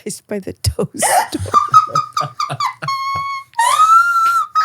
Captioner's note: both laughing